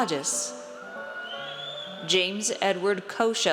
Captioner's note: audience cheers